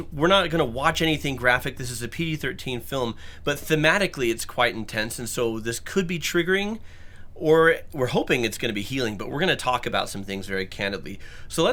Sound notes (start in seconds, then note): none